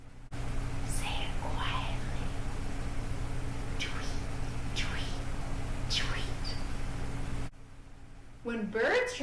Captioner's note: whispering; whispering